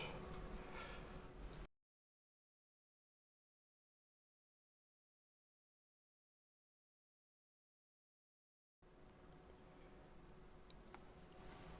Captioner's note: silence